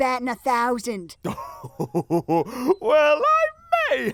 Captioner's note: Godfree chuckles